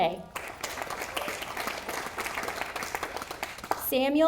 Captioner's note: audience applauding